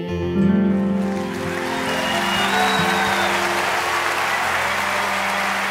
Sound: audience cheering

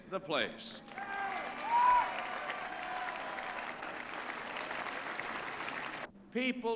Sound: cheers, applause

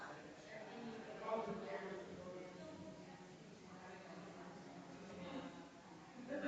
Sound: people chattering distantly continues

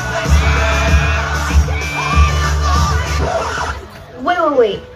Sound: record screech

